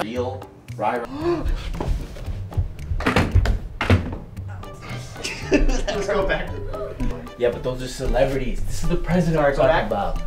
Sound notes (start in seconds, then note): 4.6 laughing